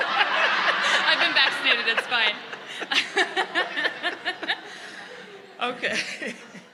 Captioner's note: laughter